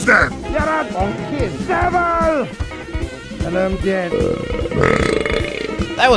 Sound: burps

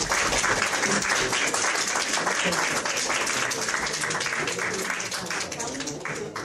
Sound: audience applauds; panelists chattering

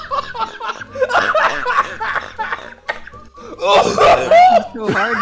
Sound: Jello coughing up his lungs

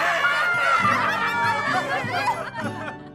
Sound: sam chuckles

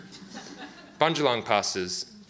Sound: audience laughs

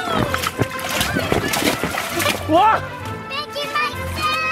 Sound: yells; water splashing

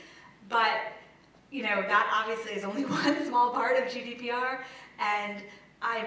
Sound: laugh

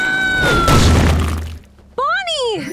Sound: fist smashing

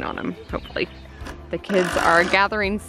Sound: power tool grinding

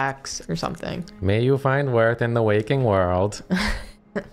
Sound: monotone voice

